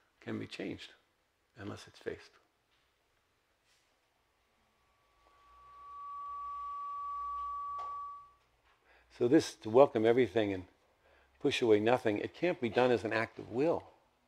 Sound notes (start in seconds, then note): 4.7 microphone feedback